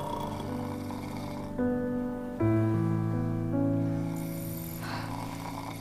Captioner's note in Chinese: 呼嚕聲